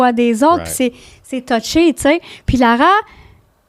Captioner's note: in french